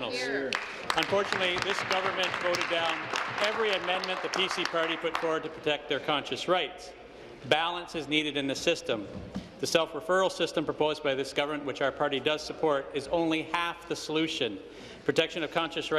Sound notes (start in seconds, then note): 5.1 applause